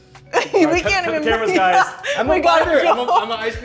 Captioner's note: laughing